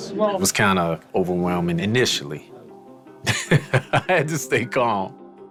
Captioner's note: laughs